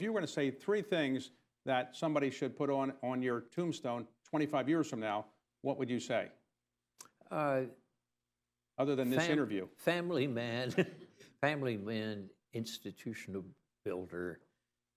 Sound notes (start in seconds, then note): 9.9 laughs